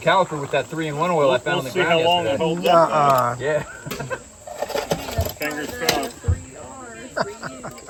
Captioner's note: chuckles